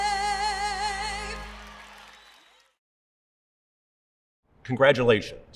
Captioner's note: audience applauding; audience cheering